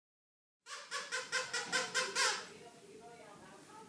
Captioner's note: squeaking